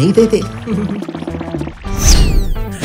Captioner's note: chuckle